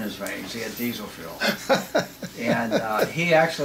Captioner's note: laughs